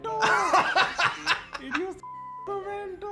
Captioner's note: laughs